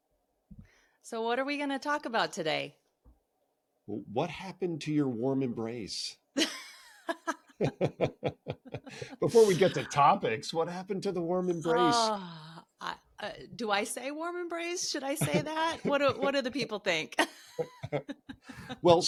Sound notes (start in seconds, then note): 7.6 laughing